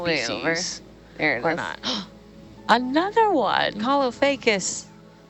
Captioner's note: gasps